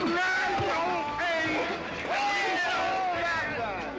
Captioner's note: exclaiming